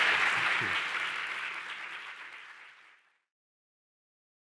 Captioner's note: audience applauding